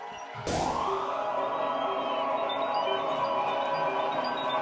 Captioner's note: doors tinkle; laughs